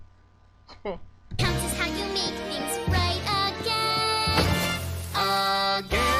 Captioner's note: thump